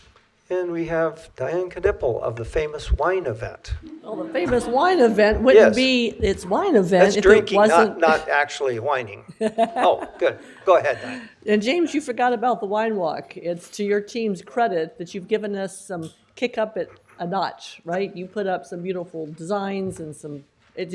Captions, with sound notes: And we have Dianne Knipple of the famous wine event. Oh, the famous wine event wouldn't be its wine event if it wasn't It's drinking, not, not actually whining (laughter). Oh, good, go ahead, Dianne. And James, you forgot about the Wine Walk. It's to your team's credit that you've given us some kick up a notch, right? You put up some beautiful designs and some...